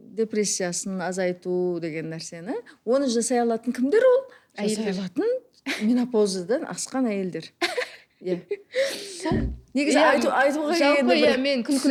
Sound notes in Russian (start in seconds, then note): 7.5 смеётся